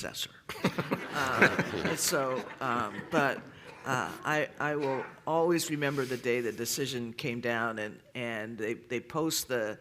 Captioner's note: laughter